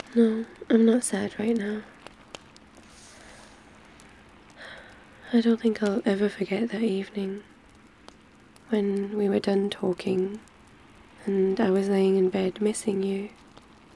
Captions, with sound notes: no, I'm not sad right now *sighs* I don't think I'll ever forget that evening when we were done talking and I was laying in bed missing you